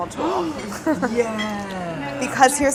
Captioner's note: gasps